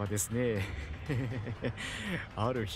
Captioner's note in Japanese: キモ笑い